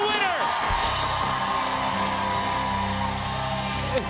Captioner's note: cheers and applause